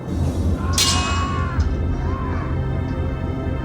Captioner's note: grunting